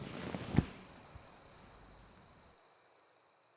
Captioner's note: thunk